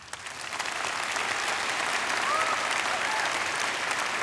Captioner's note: audience applauding